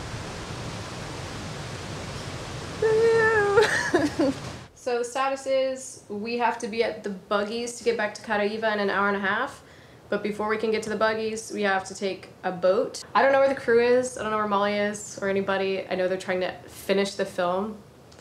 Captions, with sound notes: Woo-hoo! (laughing) - So status is, we have to be at the buggies to get back to Caraíva in an hour and a half. But before we can get to the buggies, we have to take a boat. I don't know where the crew is, I don't know where Molly is or anybody. I know they're trying to finish the film,